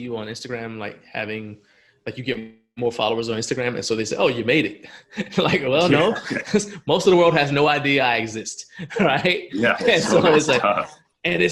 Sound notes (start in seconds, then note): 4.8 laughs; 8.7 laughs